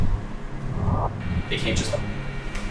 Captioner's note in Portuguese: Distorção de áudio